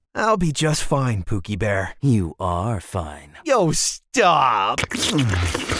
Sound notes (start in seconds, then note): 4.8 kissing